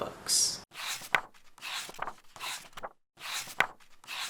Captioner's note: pages turning